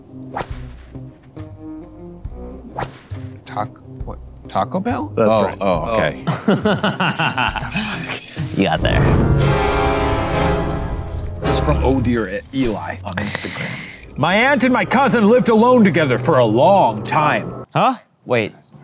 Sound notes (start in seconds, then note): 0.2 whip lash; 6.2 laughs; 9.8 spooky music